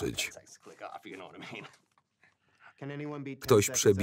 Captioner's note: laughs